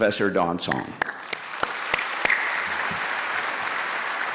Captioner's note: applause